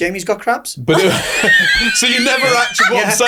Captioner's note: everybody laughing